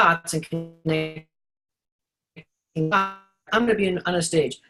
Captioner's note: audio glitch